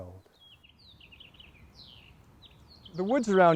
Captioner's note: birds twittering